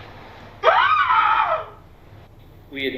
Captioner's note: Cheyanne screams